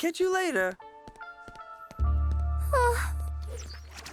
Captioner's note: disappointed sigh